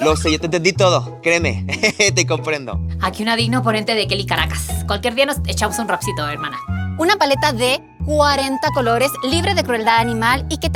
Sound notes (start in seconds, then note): 5.7 RE: Kelly speaks way too fast